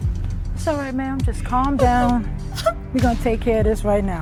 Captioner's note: Lucy sobs